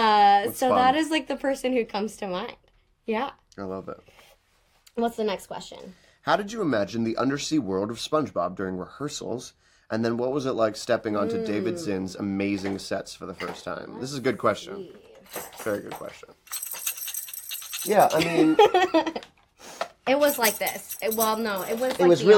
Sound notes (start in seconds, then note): 17.6 shakes toy and laughs